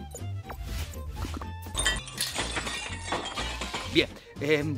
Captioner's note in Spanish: ruido a vidrios rotos